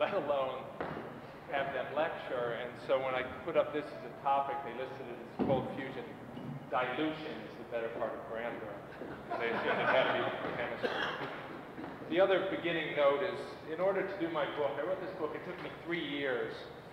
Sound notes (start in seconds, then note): 7.1 laughter